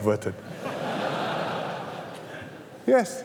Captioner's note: laughter